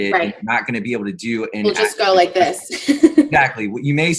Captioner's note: laughs